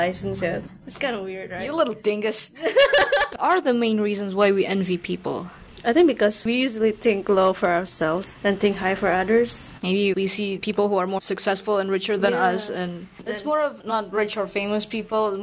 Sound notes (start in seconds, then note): 0.0 laughs; 2.6 blehehehehuehue